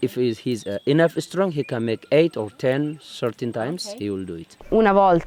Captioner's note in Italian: Inglese